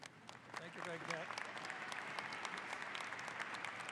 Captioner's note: audience applauds